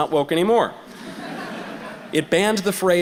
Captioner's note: audience laughter